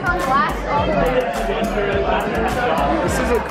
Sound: crowd talking

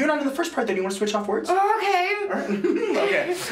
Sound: excited laughter

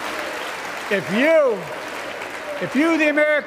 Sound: applause

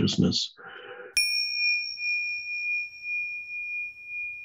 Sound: bell ringing

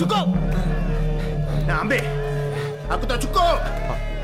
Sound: Malay Language

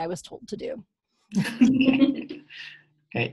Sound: chuckle

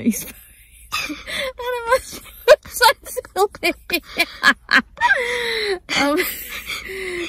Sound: both laugh a lot

